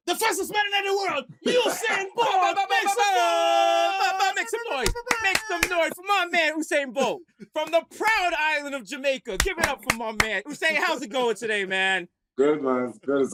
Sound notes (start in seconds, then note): 3.5 shouting